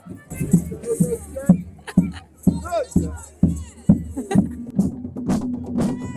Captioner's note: people chattering; lively music